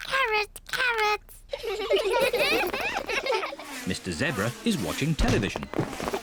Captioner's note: all giggle